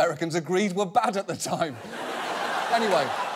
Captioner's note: audience laughs